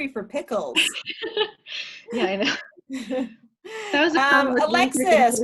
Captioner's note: laughs